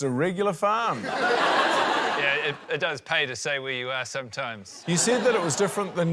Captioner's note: laughter